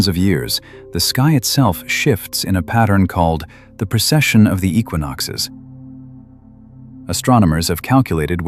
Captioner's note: breath